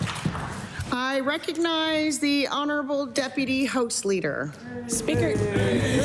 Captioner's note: cheering/Applause